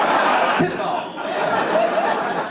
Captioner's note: audience laugh